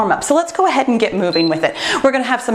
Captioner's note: timer beeps